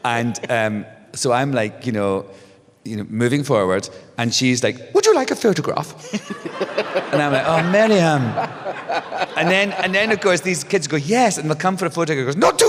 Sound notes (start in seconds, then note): 0.1 laughs; 6.0 laughter